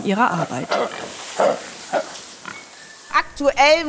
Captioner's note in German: Grunzen